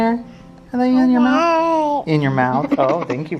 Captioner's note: babbles